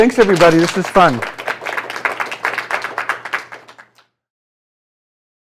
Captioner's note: applause